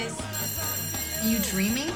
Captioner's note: bell rings